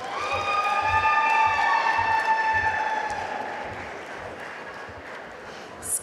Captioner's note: audience cheering and applauding